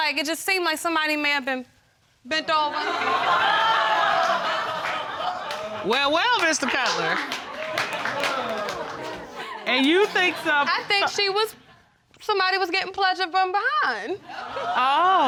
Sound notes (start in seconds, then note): 4.0 audience laughing; 8.2 audience exclaiming